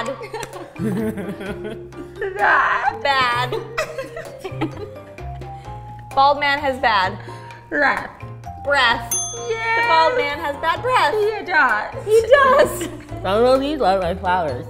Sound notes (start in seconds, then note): 0.0 giggles; 9.0 ding